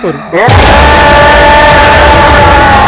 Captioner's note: Screaming